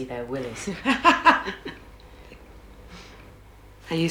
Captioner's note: gail laughs